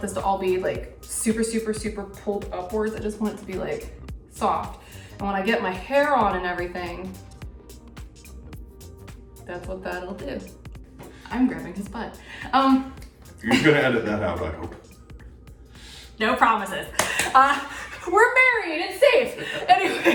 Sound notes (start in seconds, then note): 7.4 upbeat music; 16.9 claps; 17.1 both laugh; 19.1 laughs